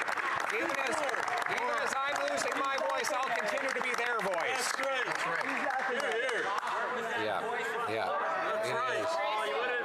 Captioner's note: applause